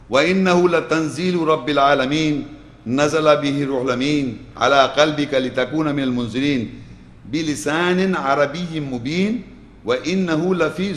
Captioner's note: Arabic